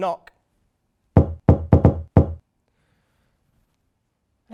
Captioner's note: knocking